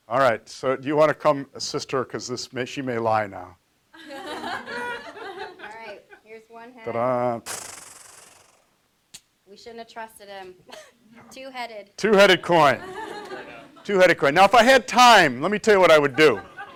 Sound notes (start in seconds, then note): 7.6 imitating drum roll